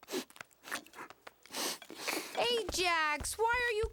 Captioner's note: sobbing